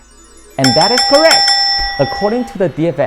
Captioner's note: bell rings